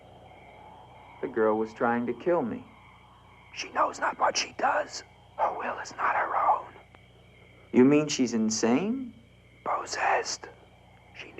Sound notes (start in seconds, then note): none